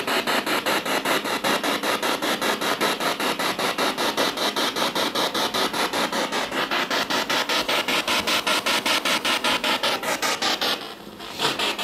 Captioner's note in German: Noise of the spiritbox in the background